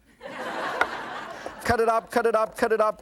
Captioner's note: audience laughs